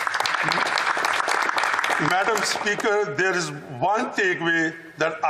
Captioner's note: applause